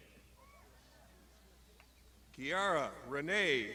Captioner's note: crowd shouting